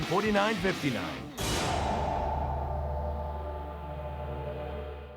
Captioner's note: graphics booming